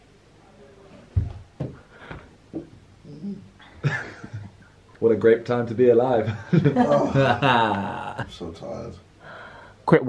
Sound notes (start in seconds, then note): 6.3 chuckling